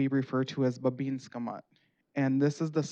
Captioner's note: speaking Native language